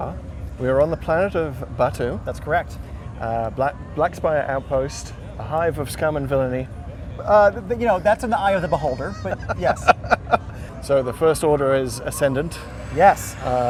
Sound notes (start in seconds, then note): 8.5 laughs